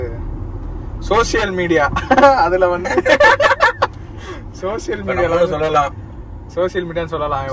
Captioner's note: Laughs